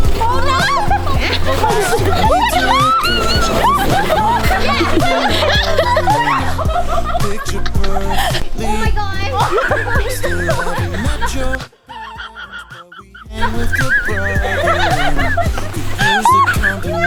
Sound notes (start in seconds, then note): 5.5 laughing; 9.7 can't breathe laugh